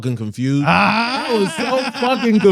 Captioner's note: laughing